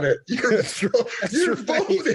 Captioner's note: laughing